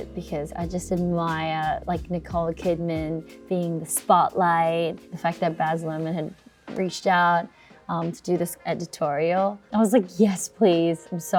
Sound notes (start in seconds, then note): none